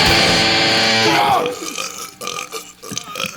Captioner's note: burp sounds